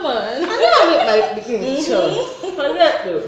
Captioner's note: laughter